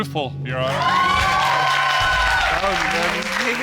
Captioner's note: audience cheering